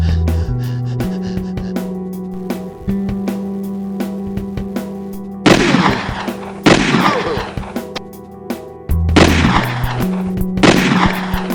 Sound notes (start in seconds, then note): 5.4 gun firing; 9.1 gun firing